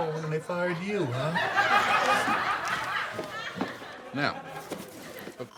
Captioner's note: audience laughs